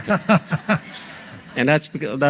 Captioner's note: audience laughs